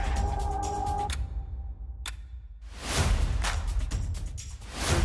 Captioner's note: clock ticking